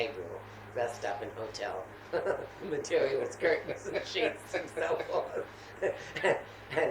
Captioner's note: laughter